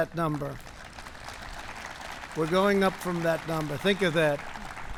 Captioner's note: applause